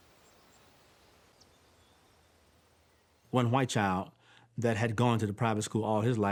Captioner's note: insects chirping, birds trilling